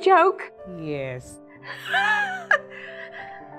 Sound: laugh

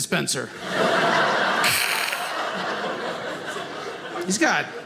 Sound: audience laughing

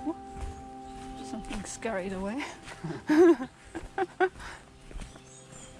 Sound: both laughing

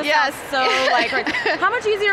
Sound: laughing

